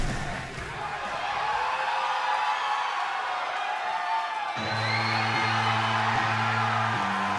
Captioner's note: cheers and applause